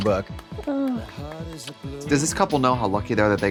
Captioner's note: Trixie claps